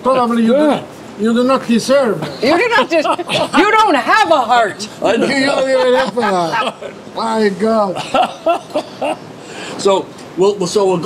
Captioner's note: all laugh